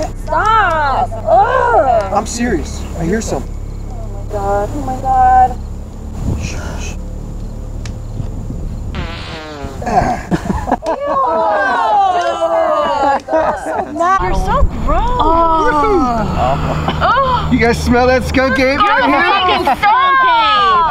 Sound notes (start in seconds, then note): 8.9 mack farts; 11.0 all shouting